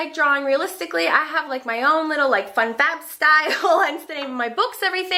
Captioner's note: laughs